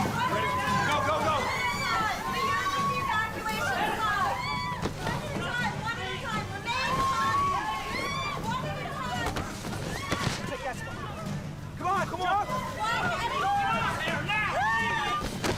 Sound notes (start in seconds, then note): 4.5 passengers screaming; 6.8 screaming